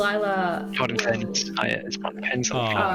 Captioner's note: mutters